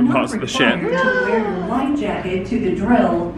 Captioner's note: gasping